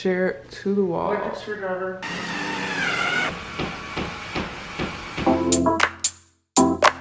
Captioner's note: screwdrivers whirs; upbeat music